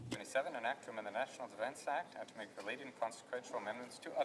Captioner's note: speaking French